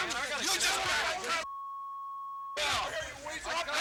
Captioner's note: beep; people yelling; beep